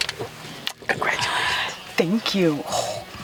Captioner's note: lips kissing